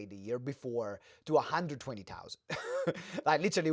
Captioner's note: laughs